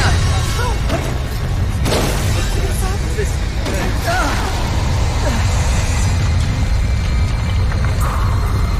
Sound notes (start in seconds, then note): 1.5 rocks falling; 3.8 grunting